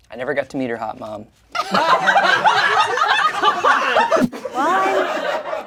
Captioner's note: everyone laughs